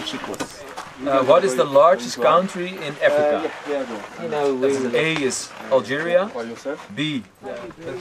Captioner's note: in English